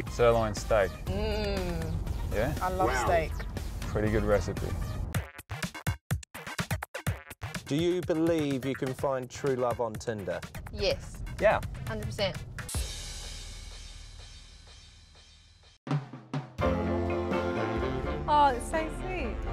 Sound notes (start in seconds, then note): 1.1 mmmmmm